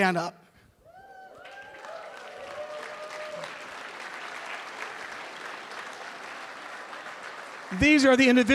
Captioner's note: applause